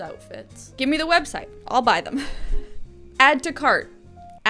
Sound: laughs

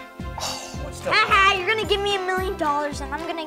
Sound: sigh; laughing

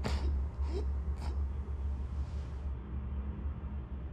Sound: struggling to breath; takes final breath

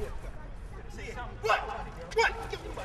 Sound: men yelling

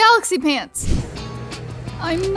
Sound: screen swoosh

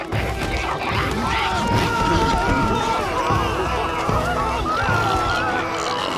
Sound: screaming

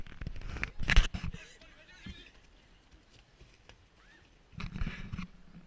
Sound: children running

